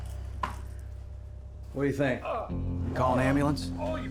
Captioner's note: man groaning